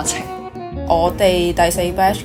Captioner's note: Cantonese